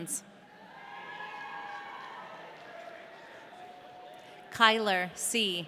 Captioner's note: audience cheering